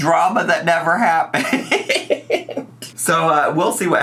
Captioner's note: laughs